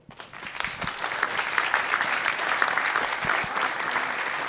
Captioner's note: audience applauding